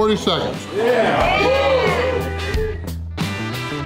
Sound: crowd; crowd cheering

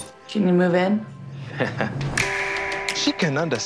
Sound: laughs

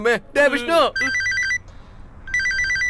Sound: phone rings

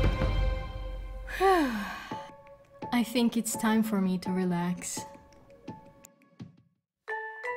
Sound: sigh

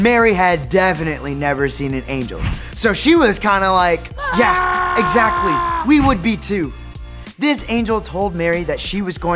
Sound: screaming

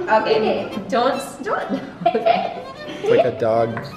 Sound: laughs

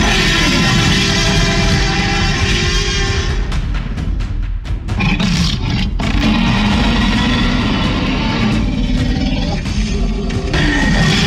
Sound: tyrannosaurus roaring

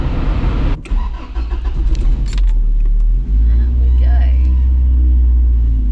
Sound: engine starts up

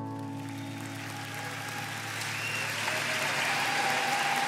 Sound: audience applauding

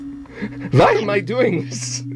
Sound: laughs softly

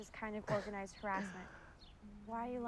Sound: laughing

